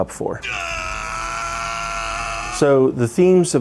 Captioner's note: screams